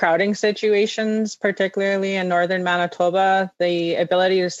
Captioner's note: speaking in French